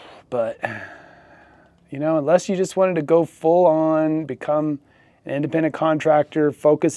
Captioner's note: sighs and gasps